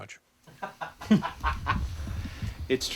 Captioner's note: laughter